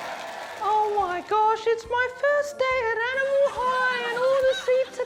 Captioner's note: high-pitched voice